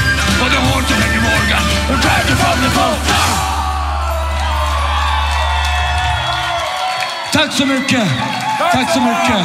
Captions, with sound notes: Or the whores of Henry Morgan will drag ye from yer post. Yarr! [cheering]